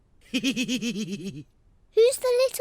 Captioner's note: laughs